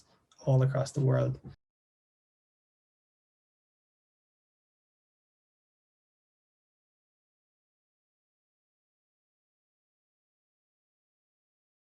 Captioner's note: silence